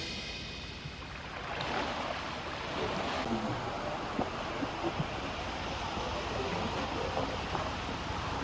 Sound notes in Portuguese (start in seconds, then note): 2.7 Ondas do mar